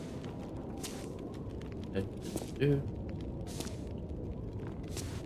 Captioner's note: humming